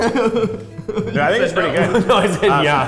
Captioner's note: laughs